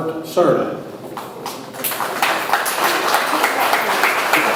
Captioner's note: audience applauds